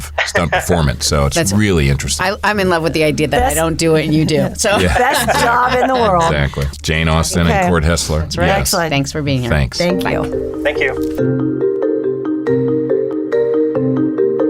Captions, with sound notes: of stunt performance, so that's really interesting. - I'm in love with the idea that they don't do it and you do. (laughing) - Best job in the world. - Exactly. Jane Austin, - Okay. - And Cort Hestler. - That's right, excellent. - Thanks for being here. - Thanks. - Thank you. - Thank you. (theme music)